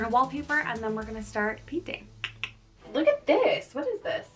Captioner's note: clicks tongue